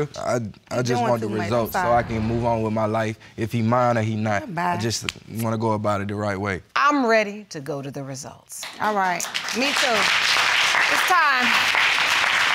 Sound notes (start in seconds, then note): 8.6 applause